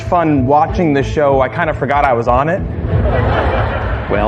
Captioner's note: laughter